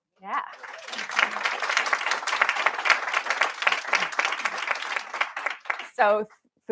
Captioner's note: applause